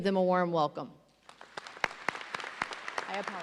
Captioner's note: audience applauds